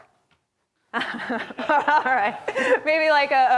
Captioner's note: laughs